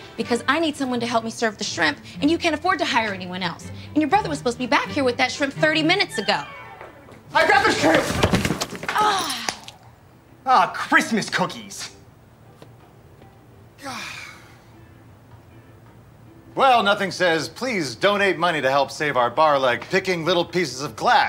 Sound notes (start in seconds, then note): 8.9 Roxie groans; 13.8 all groaning